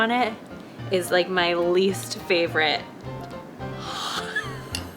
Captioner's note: laughs